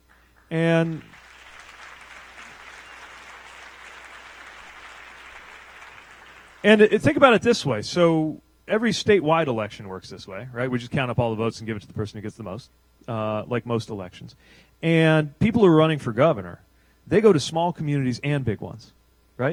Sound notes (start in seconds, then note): 4.6 applause